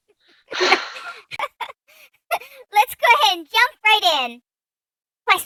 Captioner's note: laughs